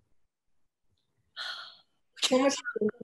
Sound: sighs

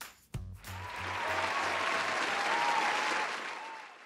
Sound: applause

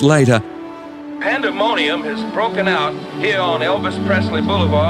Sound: crowd cheering

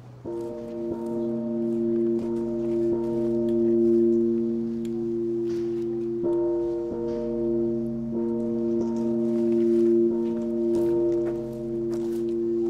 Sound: bell ring

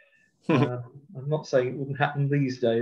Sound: laughs

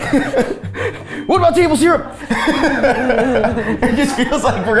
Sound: laughing

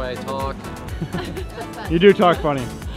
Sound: laughing

